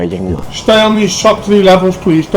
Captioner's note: Scouse / Liverpool Accent